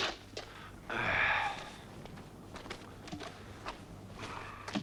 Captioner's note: Torente sighs